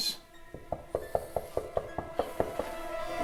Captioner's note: knocking at door